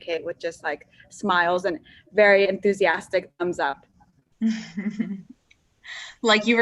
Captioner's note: laughs